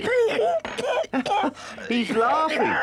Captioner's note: Badger coughs